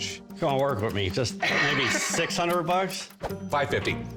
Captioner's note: laughs